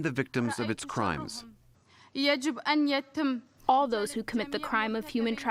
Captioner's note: through translator